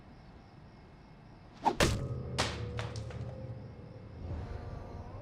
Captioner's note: club striking